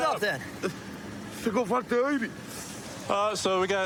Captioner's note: speaking spanish